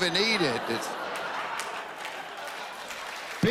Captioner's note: laughter